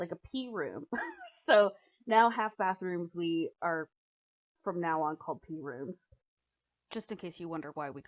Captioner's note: chuckles